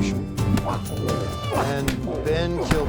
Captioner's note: punching